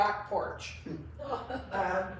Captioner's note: laughs